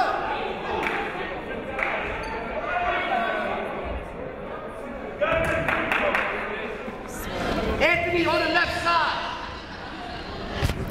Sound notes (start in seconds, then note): 2.5 chatting; 5.5 clapping